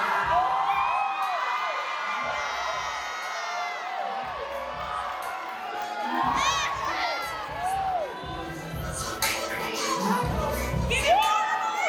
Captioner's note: applause